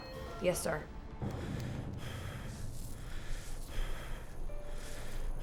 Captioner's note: breathing heavily